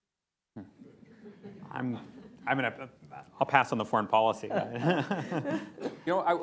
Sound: laughter; laughter

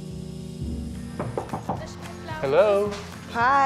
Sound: knocking

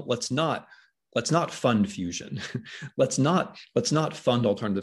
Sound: chuckles

